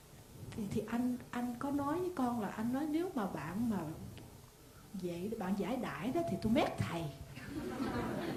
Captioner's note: audience laughs